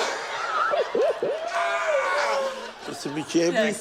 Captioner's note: laughs; yells joyfully